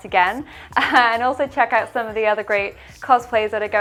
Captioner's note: laughs